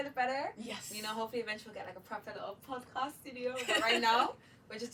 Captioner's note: both laugh